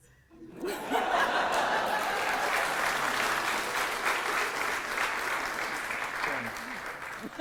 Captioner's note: audience applause